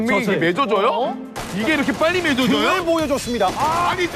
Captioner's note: firing shots